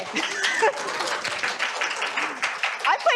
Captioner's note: applause